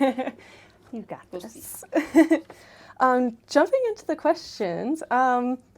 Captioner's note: laughter